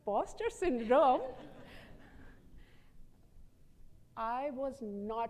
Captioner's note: audience laughs